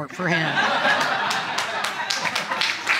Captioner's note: audience laughing